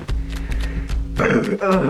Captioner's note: burp